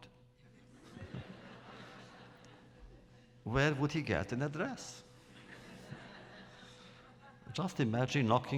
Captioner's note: laughter